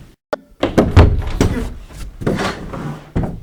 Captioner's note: door opens